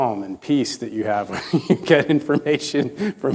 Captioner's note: chuckling